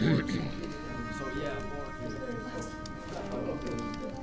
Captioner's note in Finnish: rykäisee; keskustelun porinaa